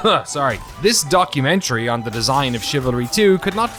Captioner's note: coughing; speaking normally